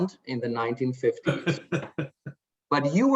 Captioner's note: laughs